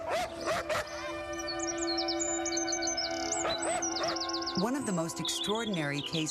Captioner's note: barking